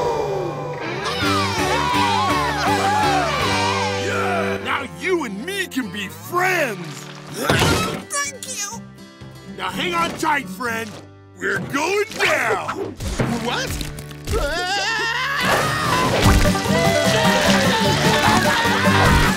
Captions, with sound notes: [cheering] Now you and me can be friends! Thank you. Now hang on tight, friend. - We're going down. - What? [screaming] Wee! [screaming]